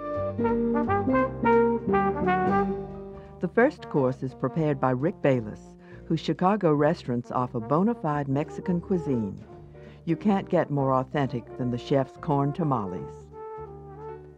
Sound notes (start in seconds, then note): 0.0 jazz music; 3.4 voiceover